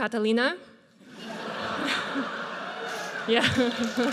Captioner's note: audience laughs; audience cheers and applauds